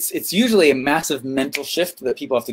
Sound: fingers snap

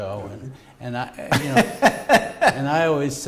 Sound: laughter

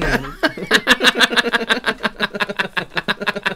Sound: ungrateful Laughter

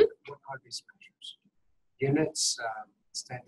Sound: voiceover

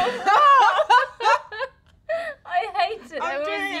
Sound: laughs

